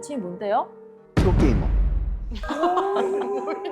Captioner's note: sound effect: Confident